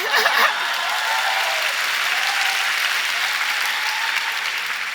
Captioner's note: applause